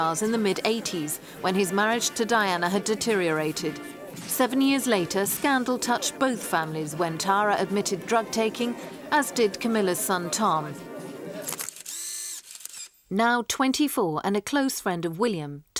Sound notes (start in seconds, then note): 11.4 camera clicks